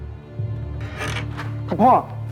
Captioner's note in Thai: เสียงเปิดประตู